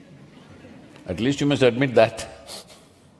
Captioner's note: few laugh; laughs